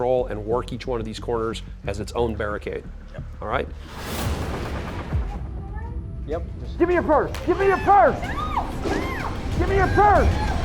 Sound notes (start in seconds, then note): 7.0 voiceover; 7.7 screaming